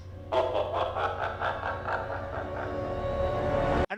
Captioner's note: evil laughter